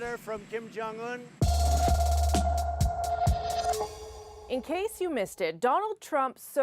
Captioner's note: speaking ojibway